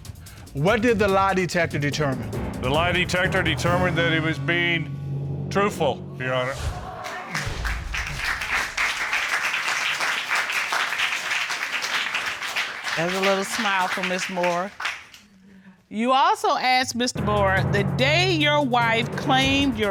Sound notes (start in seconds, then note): 7.0 applause